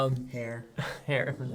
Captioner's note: laughs